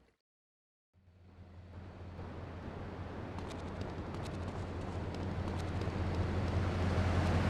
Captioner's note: tires screeching